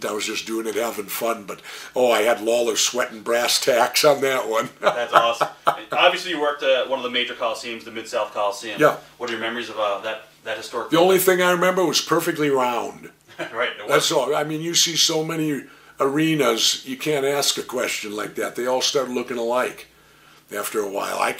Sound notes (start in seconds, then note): 4.6 Jesse chuckles